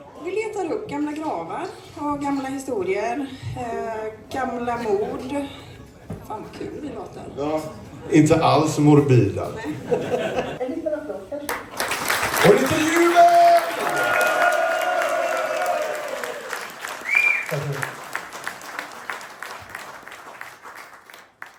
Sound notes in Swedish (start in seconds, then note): 13.4 applåder; 19.1 applåder